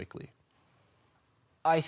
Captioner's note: silent